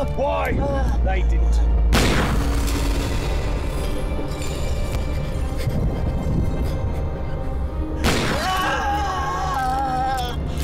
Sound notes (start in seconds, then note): 1.9 gunshot; 8.0 gunshot; 8.3 screams